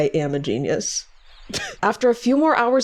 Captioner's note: laughs